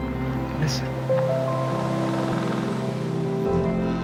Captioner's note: wind blowing